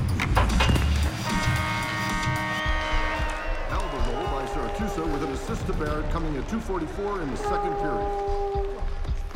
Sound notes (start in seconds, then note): 1.2 buzzer